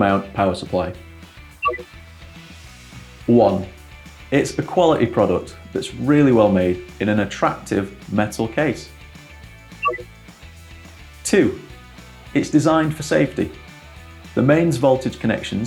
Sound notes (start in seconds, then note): 1.6 touchscreen bings